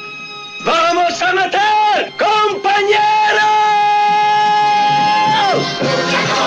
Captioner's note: Spanish spoken audio